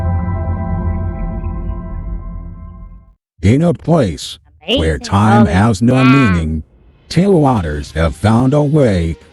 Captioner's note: voiceover